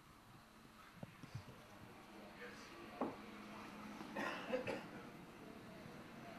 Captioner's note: laughter